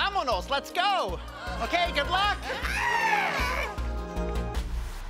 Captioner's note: group gasping